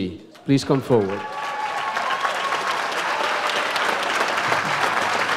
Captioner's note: audience applauds